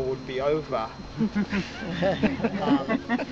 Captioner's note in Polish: śmiech